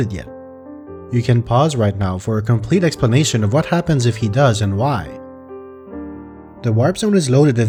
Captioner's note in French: en anglais